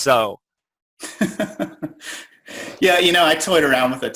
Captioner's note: chuckling